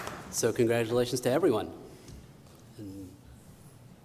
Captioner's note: applause